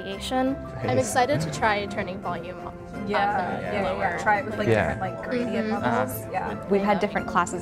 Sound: chatter

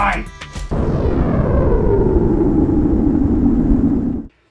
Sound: explosion

